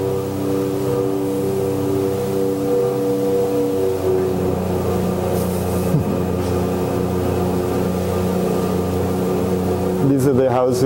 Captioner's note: airplane humming continues